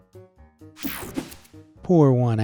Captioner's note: screen whooshing